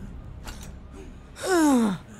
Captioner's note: sighs